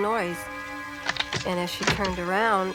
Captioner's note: thump